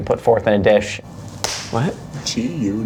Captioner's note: hands clap